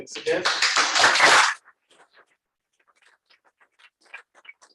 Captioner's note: applause